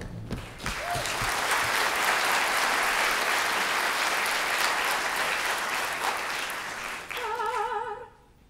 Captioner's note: applause